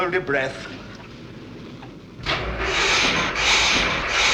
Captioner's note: engine chokes